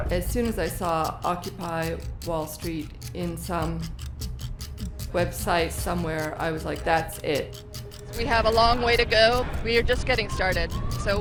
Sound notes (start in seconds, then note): 8.0 voiceover